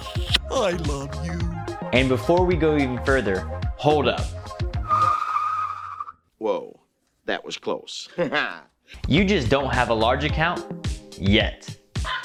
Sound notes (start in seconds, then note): 0.0 smooches; 4.8 tires screeching; 8.4 laughs